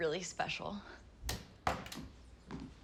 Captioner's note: door Opens & Closes